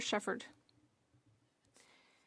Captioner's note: speaking French